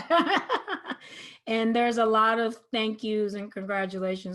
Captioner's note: laughs